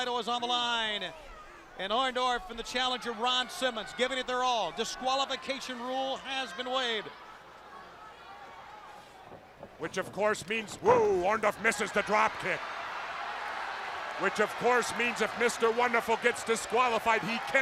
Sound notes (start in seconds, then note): 13.2 crowd cheering